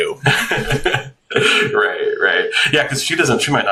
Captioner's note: laughs